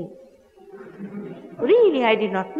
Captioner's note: laughter